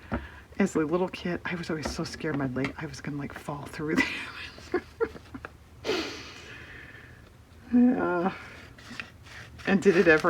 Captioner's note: laughs